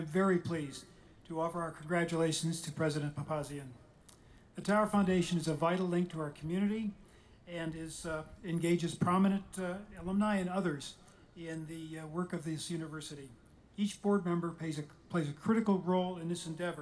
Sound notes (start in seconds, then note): none